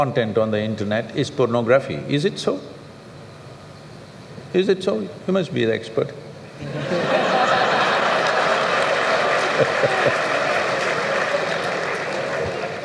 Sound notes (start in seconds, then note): 6.6 laughter/Applause